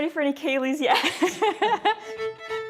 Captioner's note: laughs